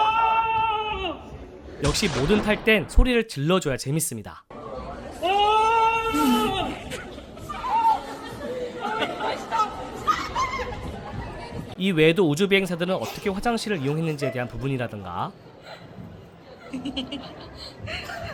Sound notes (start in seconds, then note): 6.2 everyone looks at me and laughs